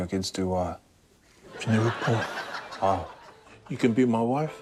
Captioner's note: laughter